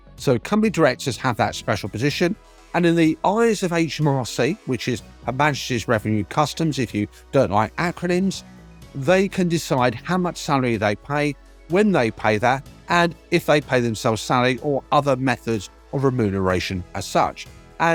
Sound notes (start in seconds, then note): none